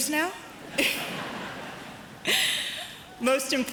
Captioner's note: audience chuckles; Malika chuckles